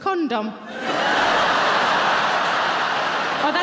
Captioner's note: audience laughing